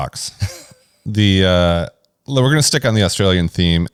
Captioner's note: laughs